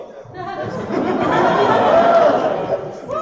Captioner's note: laughter